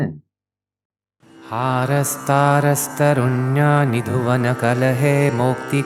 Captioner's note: man chants in Sanskrit